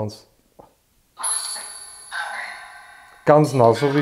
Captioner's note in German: in Austrian dialect